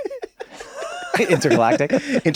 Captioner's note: laughs